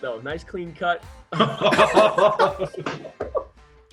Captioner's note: all laugh